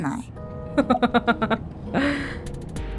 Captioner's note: chuckles